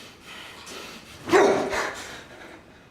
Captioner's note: gasp